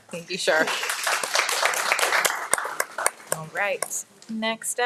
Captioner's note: audience applauding